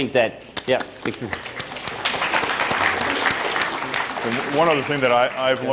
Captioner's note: applause